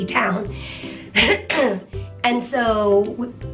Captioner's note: clears throat